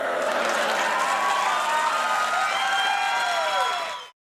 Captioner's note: audience cheers